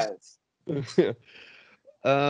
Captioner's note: laughter